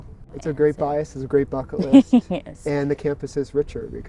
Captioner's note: chuckling